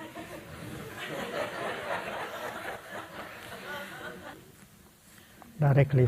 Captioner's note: audience laughing